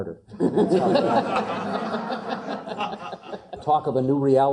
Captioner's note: laugh